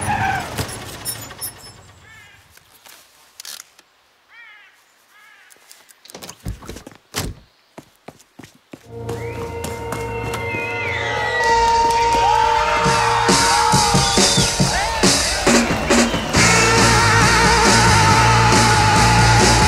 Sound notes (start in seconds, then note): 0.0 screeching; 7.1 door slamming; 9.5 rock music; 11.9 audience cheering